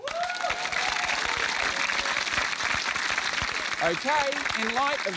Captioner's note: cheering, applause